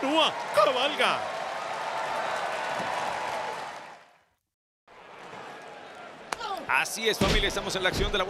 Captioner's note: applause